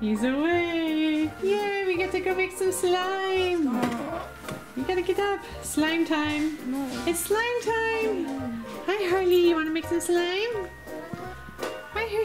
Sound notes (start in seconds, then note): 3.6 groans